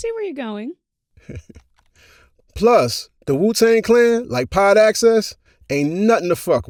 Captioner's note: chuckles